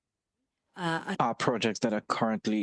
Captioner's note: speaking French